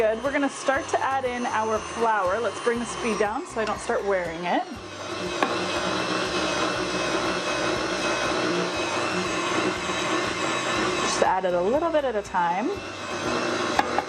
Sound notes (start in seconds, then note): 5.0 whirring sounds